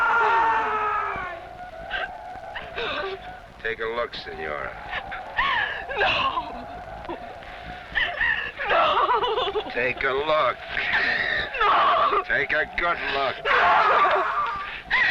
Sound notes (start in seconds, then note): 5.9 whimpers